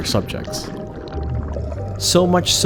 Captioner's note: water gurgles